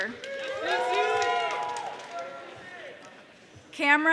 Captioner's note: audience cheering